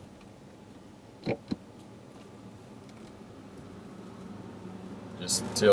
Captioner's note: gear shift clunking